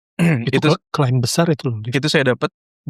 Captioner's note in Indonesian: berdehem